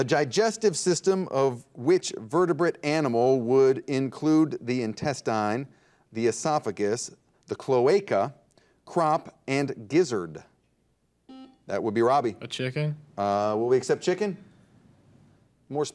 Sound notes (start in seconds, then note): 11.3 buzzer dings